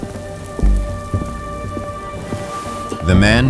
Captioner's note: sounds of various foods in fryers